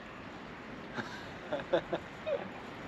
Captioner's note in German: lacht